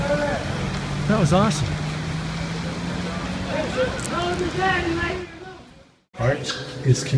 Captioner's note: yelling in Portuguese